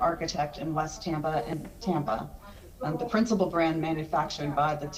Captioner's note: ~audio distortion~